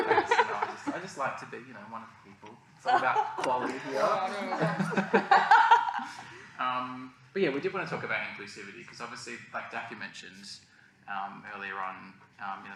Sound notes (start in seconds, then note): 4.4 laughter